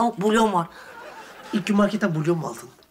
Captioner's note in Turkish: Gülme efekti